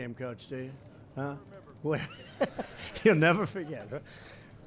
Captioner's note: laughter